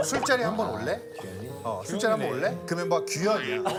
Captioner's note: one person laughing especially loudly